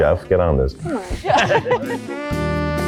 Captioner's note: group laughing; uplifting music